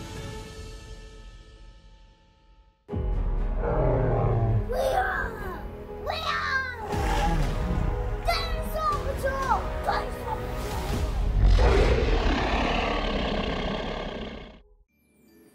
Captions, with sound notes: (dinosaur roars) (roars) (dinosaur roars) - We are Dinosaur Patrol. Dinosaur Patrol (dinosaur roars)